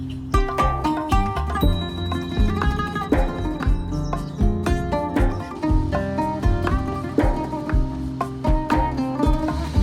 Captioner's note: birds chirping